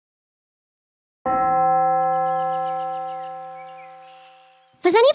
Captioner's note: bells chime